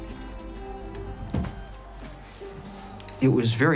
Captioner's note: knocking sounds